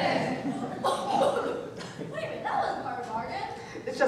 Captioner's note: coughing